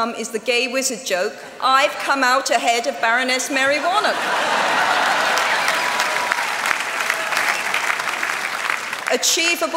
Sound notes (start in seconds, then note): 3.8 laughter; 6.0 applause